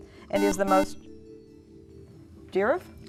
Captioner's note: buzzer